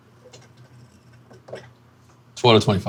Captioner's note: glass rattling